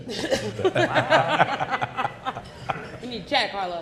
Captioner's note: people laughing